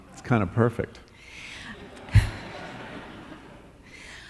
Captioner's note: laughter